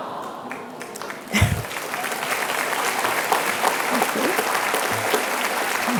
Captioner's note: applause